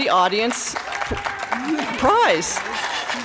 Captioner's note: applause